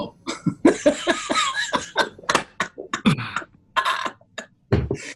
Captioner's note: laughing